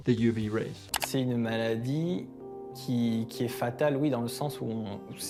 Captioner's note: interviewee speaking French